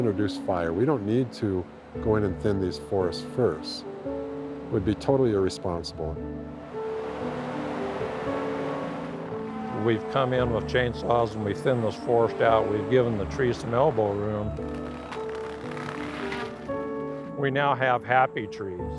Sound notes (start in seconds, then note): 5.7 logging saw whirring